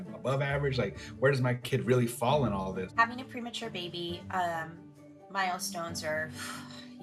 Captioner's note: sighs